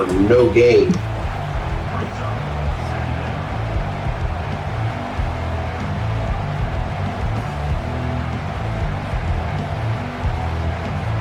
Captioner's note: crowd Noises